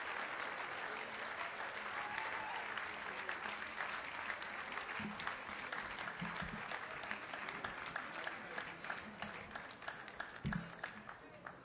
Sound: congregation applauds

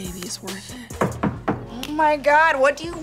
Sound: knocking on door

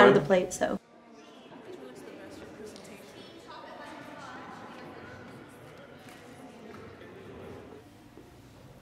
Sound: crowd noise

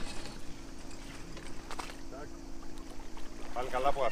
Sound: launching boat sounds

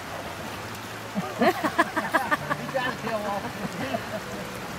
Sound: laughing

